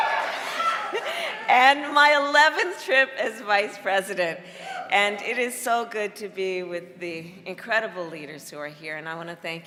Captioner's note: laughter